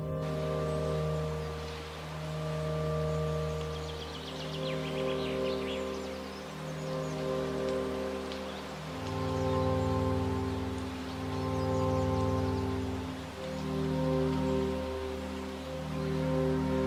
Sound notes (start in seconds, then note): 0.1 bleak music; 3.9 birds chirping